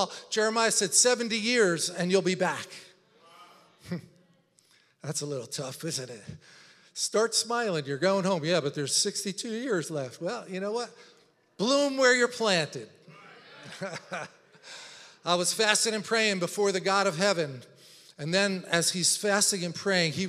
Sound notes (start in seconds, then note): 13.1 laughs; 13.8 congregation chattering